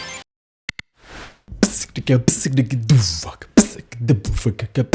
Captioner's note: beatboxing